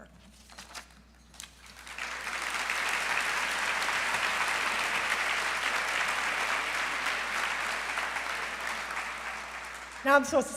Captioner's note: applause